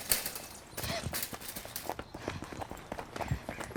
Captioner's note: panting